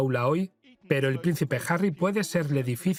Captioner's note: voiceover